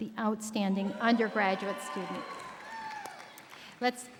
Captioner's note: audience cheering